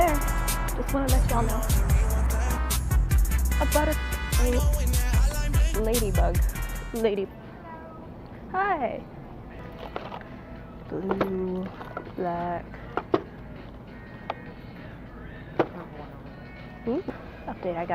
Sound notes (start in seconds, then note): 4.6 confused sound